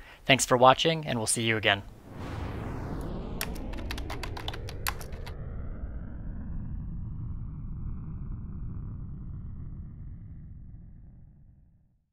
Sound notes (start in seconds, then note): 1.8 air whooshing; 2.2 letters typing